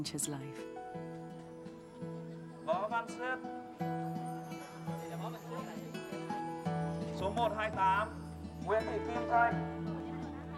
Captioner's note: calling names in foreign language